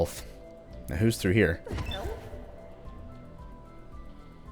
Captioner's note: porcelain speaking